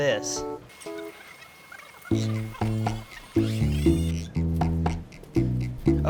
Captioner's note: sped up voice squeaks